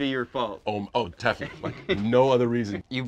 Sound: laughs

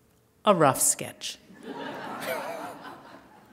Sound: laughter

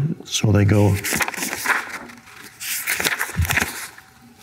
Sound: pages turning

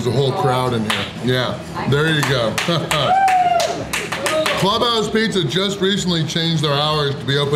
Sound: haha

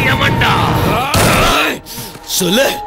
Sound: gunshot

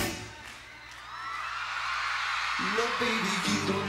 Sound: audience cheering

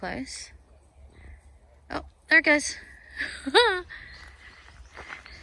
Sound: laughs joyfully

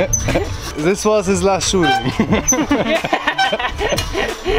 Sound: both laughing; both laughing

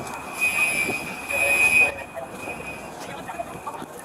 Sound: alarms screeching

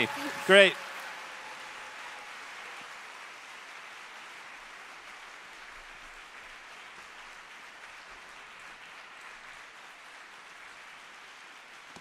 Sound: applause

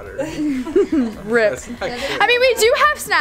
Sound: laughs

